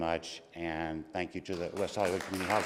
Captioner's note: applause